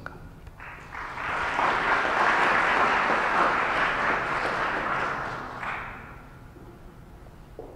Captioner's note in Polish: oklaski